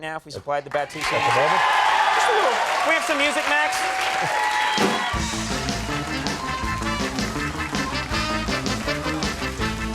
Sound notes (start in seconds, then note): 1.6 crowd applause; 4.9 crowd applause